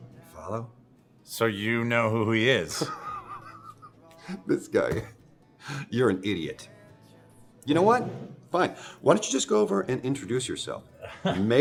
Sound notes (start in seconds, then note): 2.8 Jimmy laughs